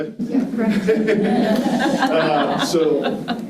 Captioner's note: participants laughing